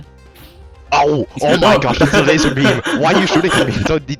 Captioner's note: laugh